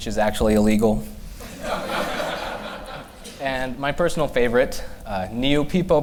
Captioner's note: laughter